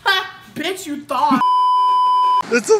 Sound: beeeeeep

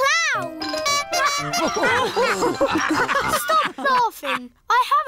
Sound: toots horn; all laugh

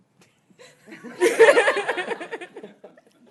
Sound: laughter

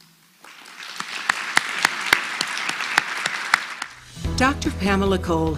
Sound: applause

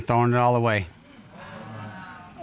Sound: audience exclaiming

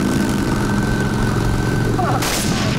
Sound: gunshot

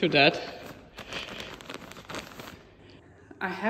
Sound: plastic rustling

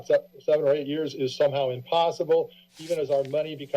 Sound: rustling

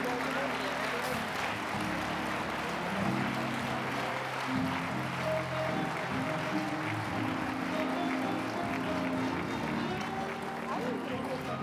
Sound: applause; mellow jazzy music

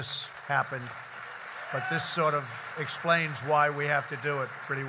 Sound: applause

